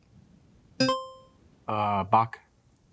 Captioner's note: buzzer chimes